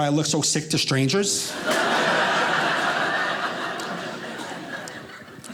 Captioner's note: audience laughing